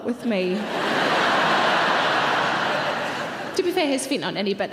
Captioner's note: audience laughs